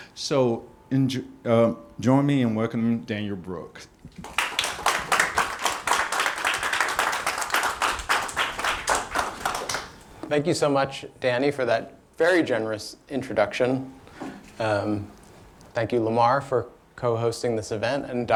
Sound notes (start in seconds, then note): 4.2 audience applauding